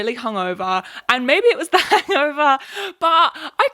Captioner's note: laughs